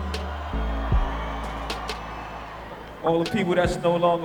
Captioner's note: cheering